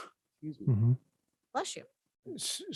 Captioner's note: sneezes